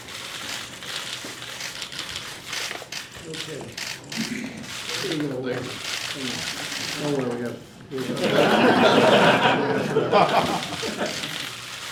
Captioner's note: applause